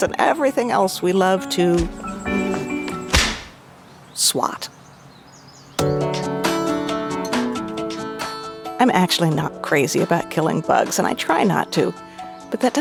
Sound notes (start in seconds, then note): 1.8 insect buzzing; 3.0 whip cracks; 5.8 light music